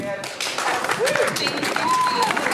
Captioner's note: audience applauding